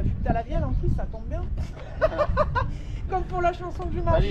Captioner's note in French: rires